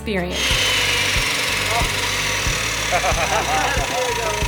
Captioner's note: saw rattling; laughing